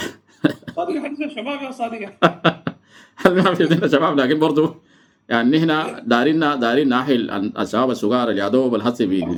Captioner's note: laughs